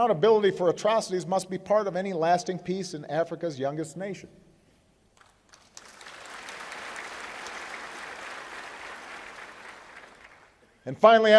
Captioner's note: applause